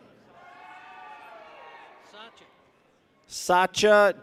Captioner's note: people cheer